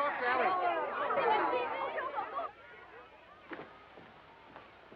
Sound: chatter

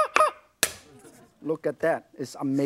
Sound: knife clatters

